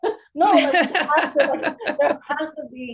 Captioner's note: laughter